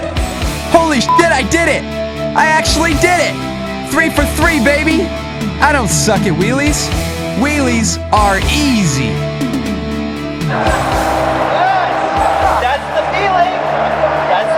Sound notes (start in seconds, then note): 1.0 beep